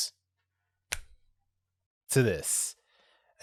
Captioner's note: snaps